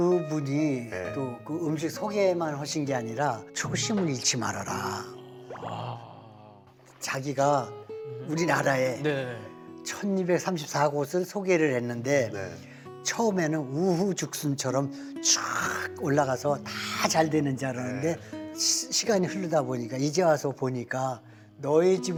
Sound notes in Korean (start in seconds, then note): 4.9 감탄